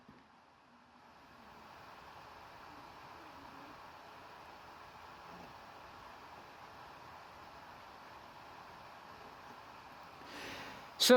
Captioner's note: laptop dvd drive spinning